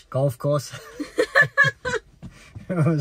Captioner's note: both laughing